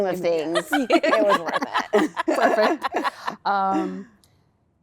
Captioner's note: laughter